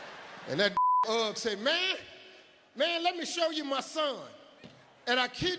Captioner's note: beep